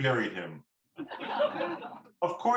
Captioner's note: laughter